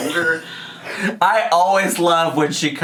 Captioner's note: laughs